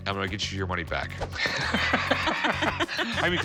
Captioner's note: both laugh